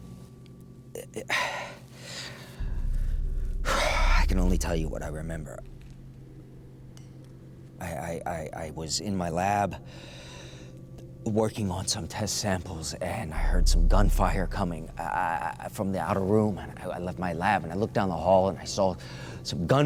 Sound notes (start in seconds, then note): 1.3 exhales deeply; 9.8 inhales deeply